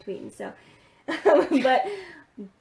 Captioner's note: laughing